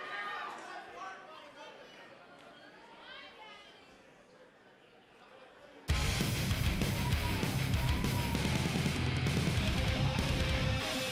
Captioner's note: crowd chatter